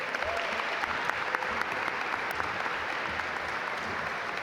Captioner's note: audience applaud